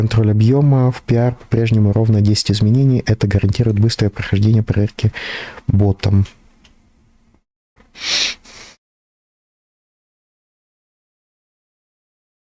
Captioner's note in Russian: фыркает